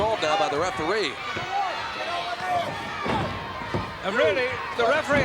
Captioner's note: crowd yelling